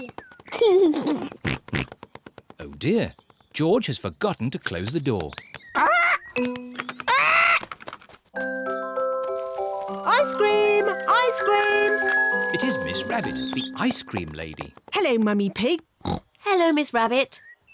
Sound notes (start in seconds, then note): 9.4 rings bell